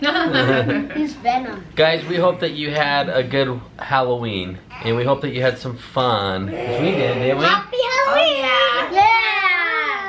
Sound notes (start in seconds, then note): 0.2 all laugh; 6.5 growls